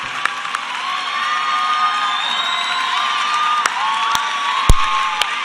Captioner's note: cheers and applause